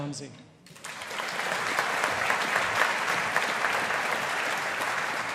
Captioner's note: audience applauding